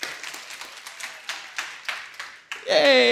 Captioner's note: applause